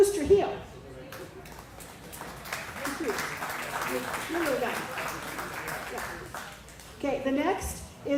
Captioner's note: applause